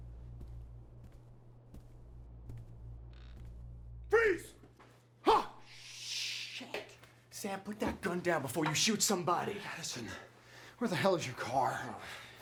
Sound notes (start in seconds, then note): 0.0 footsteps approaching; 3.4 door creaks